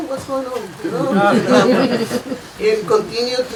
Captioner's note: laughing